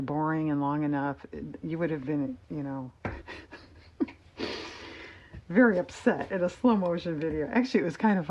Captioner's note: laughs